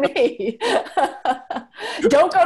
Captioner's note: laughs